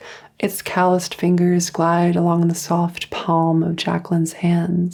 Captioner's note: none